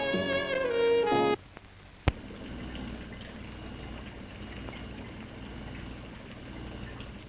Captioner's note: machines whirring